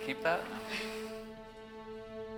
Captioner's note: laughs